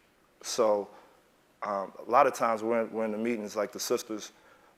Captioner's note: none